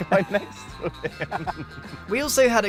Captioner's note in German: beide kichern